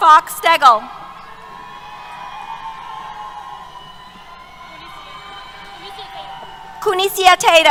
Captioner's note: cheers